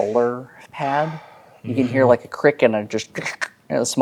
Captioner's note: makes cracking noises